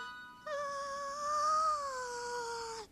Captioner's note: yawning